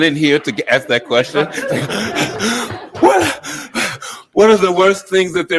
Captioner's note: moderator panting